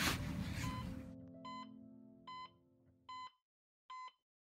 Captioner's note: machines beeping